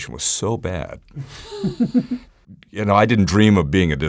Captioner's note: laughs